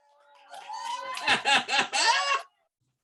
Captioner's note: applause